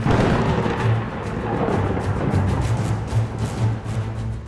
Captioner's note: lightning cracking